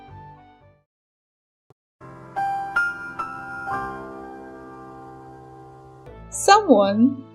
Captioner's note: the more you know sound